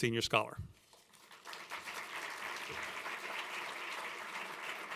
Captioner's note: applause